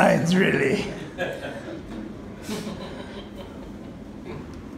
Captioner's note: laughing